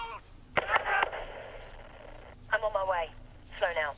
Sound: radio; militia soldiers screaming, gun shots; radio

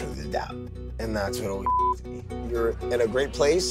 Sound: beep

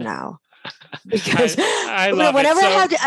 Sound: laughing

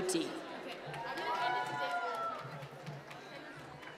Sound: applause

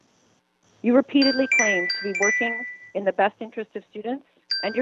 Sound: chime

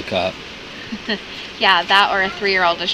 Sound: laughs

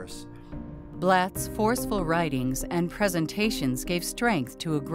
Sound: voiceover

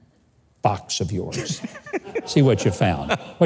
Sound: laughs

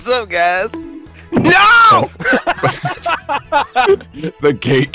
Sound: laughter

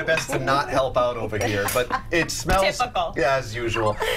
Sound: laughter

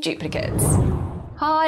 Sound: screen whooshes

